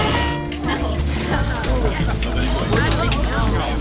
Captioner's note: sirens; seat belts releasing; chatter